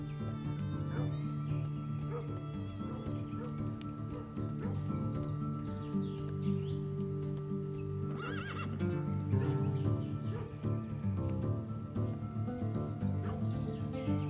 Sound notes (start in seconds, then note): 2.0 dog barking in the distance; 8.1 horse whinnies